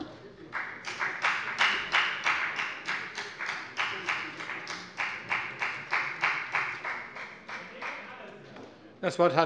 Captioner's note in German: Beifall bei der FDP